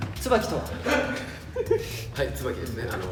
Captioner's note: more laughter